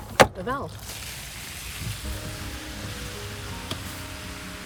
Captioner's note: water splashing